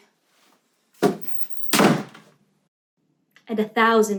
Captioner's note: door bangs